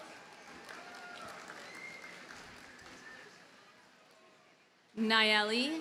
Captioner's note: audience cheers and applauds